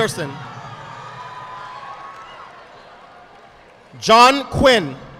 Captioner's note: audience applauding